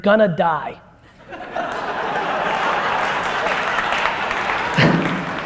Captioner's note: laughter and applause